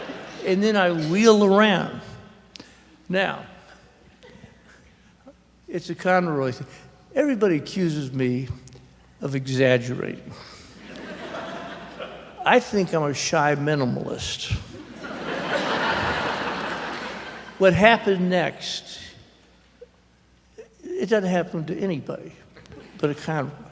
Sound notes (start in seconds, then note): 0.0 laughter; 10.6 laughter; 14.8 louder laughter